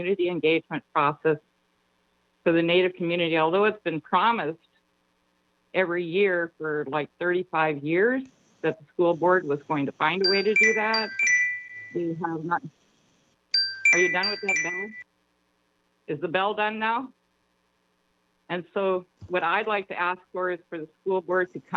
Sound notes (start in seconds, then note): 10.2 chime